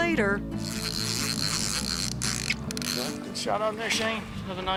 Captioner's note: reel grinding